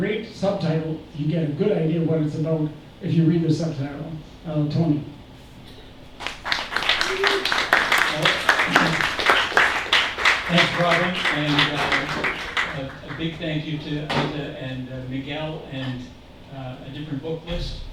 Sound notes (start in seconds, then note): 6.2 applause